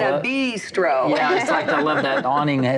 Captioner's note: laughs